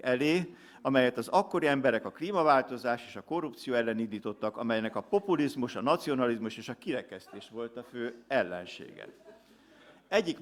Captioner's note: laughter